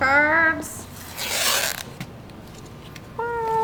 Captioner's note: tape ripping